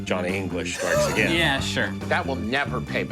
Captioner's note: gasping